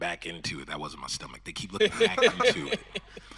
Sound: audience laughing

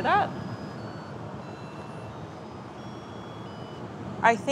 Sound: rice cooker beeping

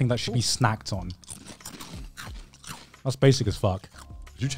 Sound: crunching

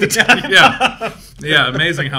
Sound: both laughing

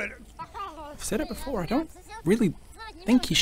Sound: babbling

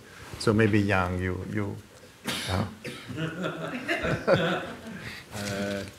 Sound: audience laughing

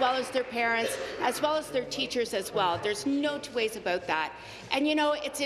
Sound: applause

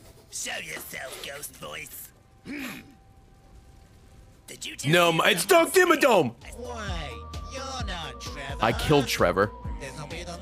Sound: laughs

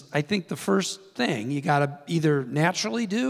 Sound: none

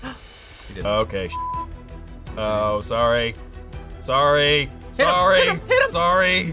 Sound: beep

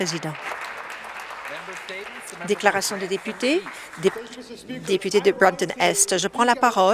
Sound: applause

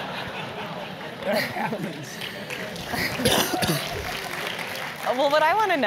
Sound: laugh; cough; applause

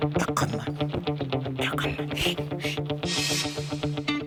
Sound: whispering

